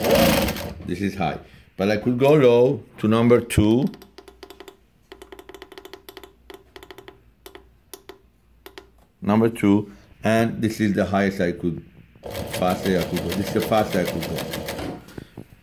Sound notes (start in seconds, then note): 4.3 clicking buttons